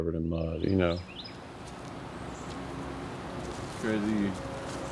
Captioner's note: birds chirping